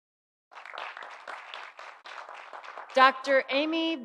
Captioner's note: audience applauding